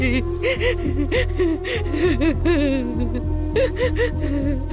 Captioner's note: Crying